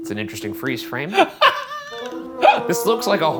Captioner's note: laughing